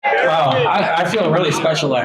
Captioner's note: crowd chattering